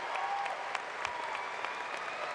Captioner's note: applause